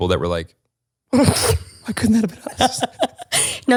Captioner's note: laughs